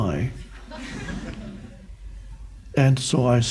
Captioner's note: crowd laughs